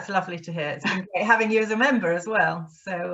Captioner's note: chuckles